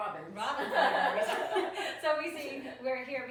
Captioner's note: laughing